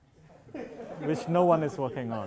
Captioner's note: laughs